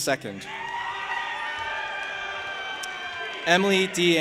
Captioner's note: audience applauding and cheering